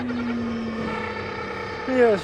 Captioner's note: engine revving